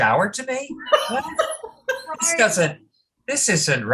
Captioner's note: laughter